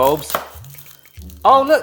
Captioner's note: knife clacking